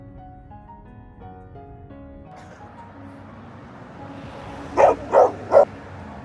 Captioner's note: woof woof